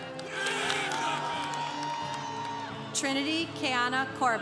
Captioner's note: congregation applauding